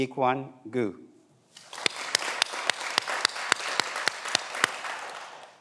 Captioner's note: everyone applauds